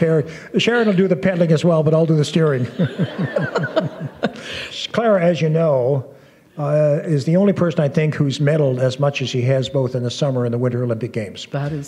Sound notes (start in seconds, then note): 2.5 laughter